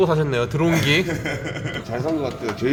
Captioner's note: laughs